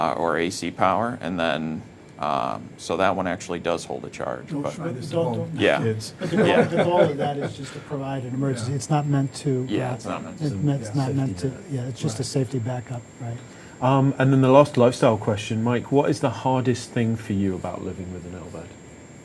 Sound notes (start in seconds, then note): 6.1 everyone laughing